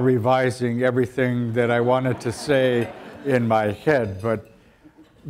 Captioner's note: audience laughter